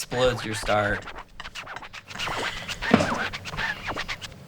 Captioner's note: record scratching